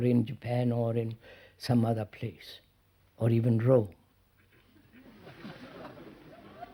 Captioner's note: laughter